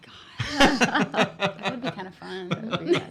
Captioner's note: laughing